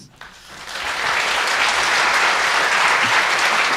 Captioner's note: applause